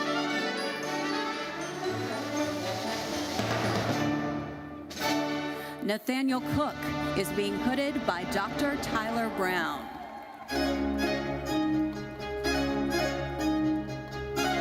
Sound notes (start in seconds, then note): 0.0 gentle classical music continues; 8.8 audience cheering; 9.1 audience applauding; 10.4 lively classical music